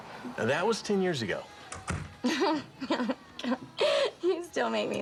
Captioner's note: laughs